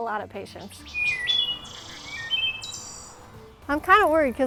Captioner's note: thrush calling